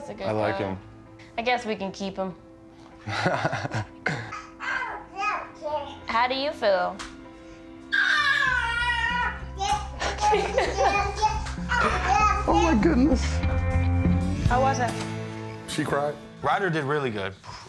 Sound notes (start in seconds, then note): 3.0 laughs; 7.9 babbles; 10.0 laughs; 13.6 calm upbeat music